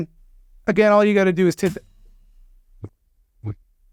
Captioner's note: thud